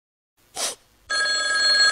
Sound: sad sniff; ringing

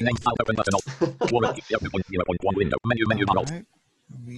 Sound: laughs

